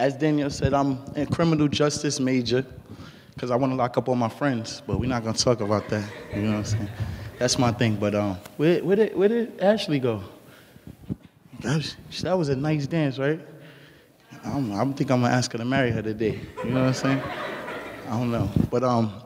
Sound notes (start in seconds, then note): 5.2 laughing; 16.3 laughing